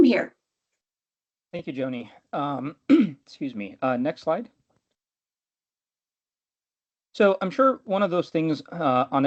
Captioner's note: clears throat